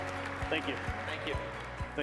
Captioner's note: applause